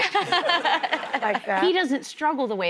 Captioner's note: laughing